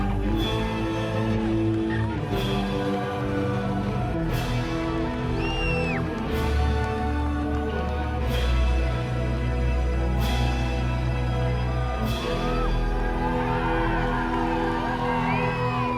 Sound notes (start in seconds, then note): 7.8 crowd cheering; 7.8 dramatic music continues